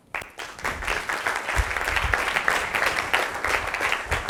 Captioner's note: applause